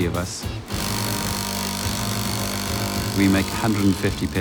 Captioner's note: machine buzzing